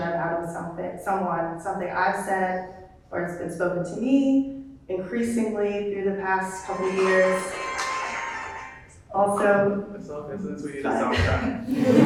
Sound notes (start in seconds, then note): 8.0 upbeat ringtone